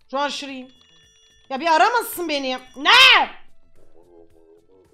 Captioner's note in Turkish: bağırarak